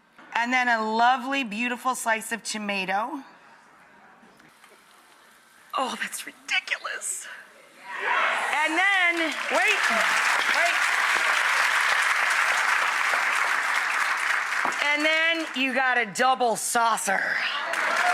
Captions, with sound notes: and then a lovely beautiful slice of tomato. Oh, that's ridiculous. Yes! And then, wait, wait. (audience applause) And then, you gotta double saucer.